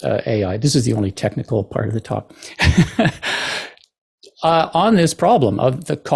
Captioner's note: chuckle